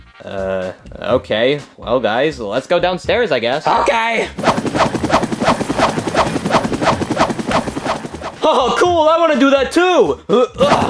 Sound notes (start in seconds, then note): 4.3 helicopter blades whirring